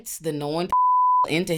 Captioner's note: beep